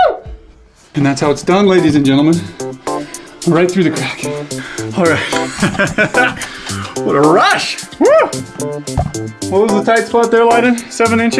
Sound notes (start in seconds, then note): 4.8 laughs